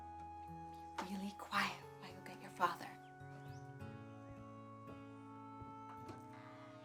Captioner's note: whispering